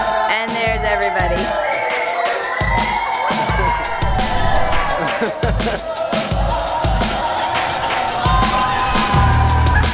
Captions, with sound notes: And there's everybody. (yelling)